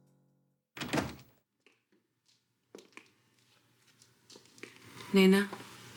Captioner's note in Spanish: Ruido al abrir la puerta